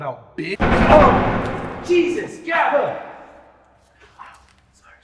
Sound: gun fires

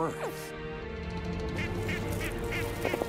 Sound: birds calling

